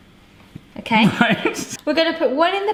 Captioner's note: laughs